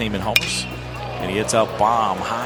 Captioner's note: bat hits ball